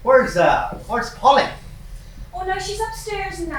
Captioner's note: none